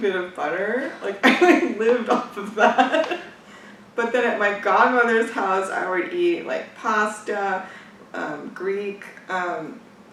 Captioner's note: laughs